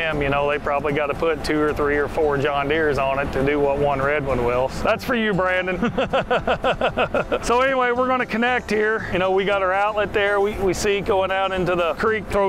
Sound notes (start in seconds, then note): 5.6 laughing